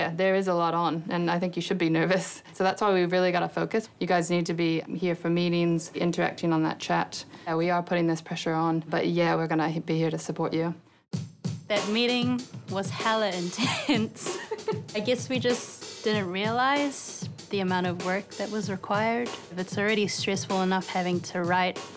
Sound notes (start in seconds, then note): 11.1 upbeat music; 14.2 laughs